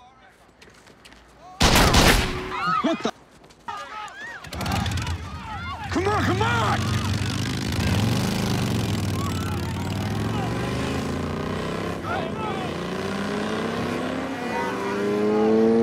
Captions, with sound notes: [GUNSHOTS] What the! [SCREAMING] [ENGINE REVVING] Come on, come on!